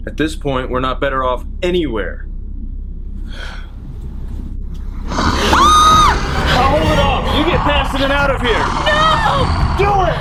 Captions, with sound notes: - At this point we're not better off anywhere! (sighing) (growling) (screaming) (dramatic music) I'll hold it off, you get past it and out of here! - No! - Do it!